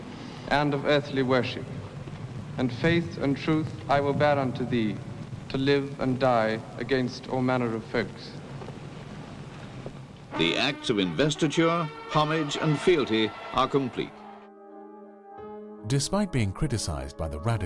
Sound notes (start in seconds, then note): 9.4 voiceover; 14.9 voiceover